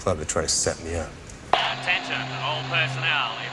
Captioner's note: Човек по радиото